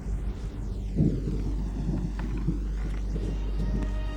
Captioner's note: thunder crashing; somber synthesizer music